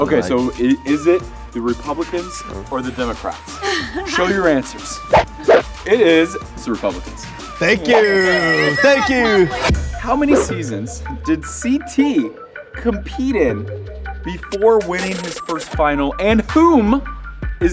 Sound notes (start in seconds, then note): 7.8 bell ringing